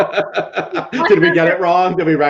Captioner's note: chuckling